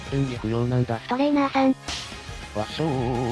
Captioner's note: smack